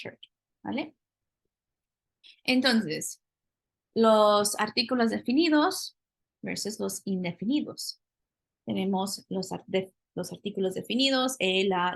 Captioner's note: speaking spanish